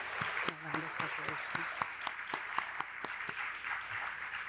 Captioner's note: audience applauding